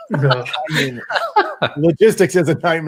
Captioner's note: laughs